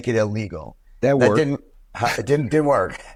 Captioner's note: laughs